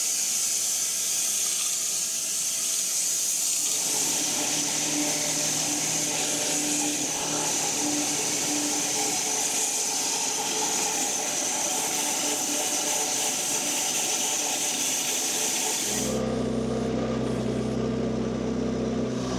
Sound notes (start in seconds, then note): 2.7 woodcutting machine hissing continues; 13.1 woodcutting machine hissing continues; 16.1 tractor rumbling